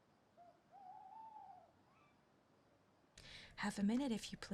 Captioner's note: owl hooting